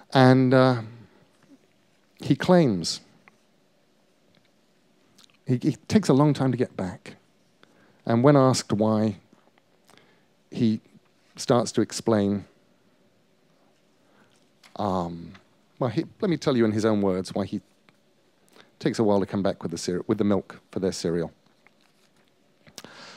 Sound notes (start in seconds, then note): none